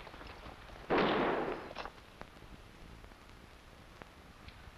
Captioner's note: gunshots blasting